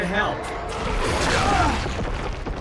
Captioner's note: optimus groaning